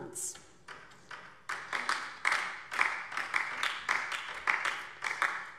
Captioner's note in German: Beifall DIE LINKE